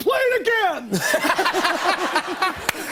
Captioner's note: laughter